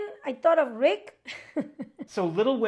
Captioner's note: chuckles